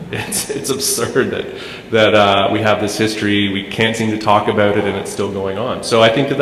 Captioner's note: chuckle